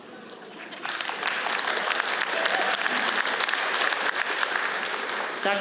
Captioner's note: audience applauds